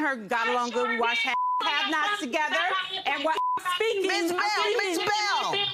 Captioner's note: yells indistinctly